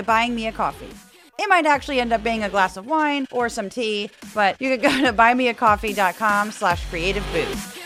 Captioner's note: laugh